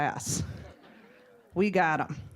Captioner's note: audience laughing